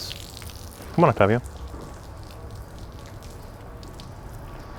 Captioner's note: water dripping